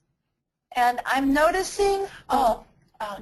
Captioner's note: voiceover